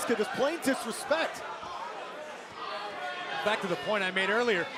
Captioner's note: crowd chatter